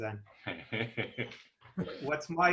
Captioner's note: laughing loudly